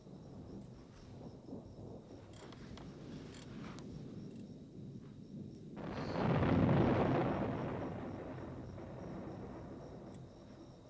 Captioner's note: thunder